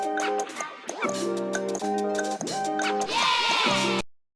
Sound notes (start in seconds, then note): 3.0 children cheering